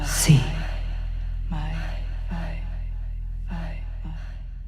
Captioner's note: voice echoing